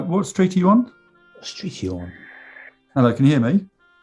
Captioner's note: quietly